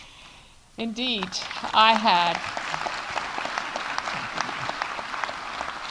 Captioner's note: audience applauding